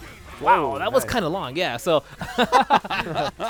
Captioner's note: laughter